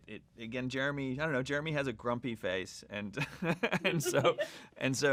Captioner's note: laughs